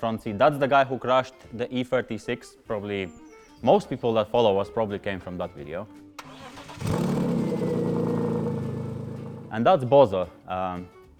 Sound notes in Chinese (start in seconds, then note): 6.2 愤怒的 e36 噪音